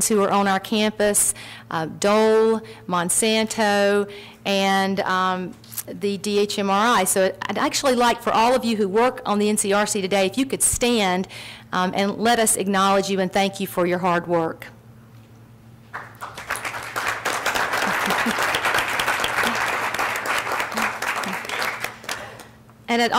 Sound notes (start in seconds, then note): 15.9 audience applauds